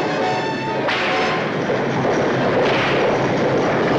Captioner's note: driver whips horses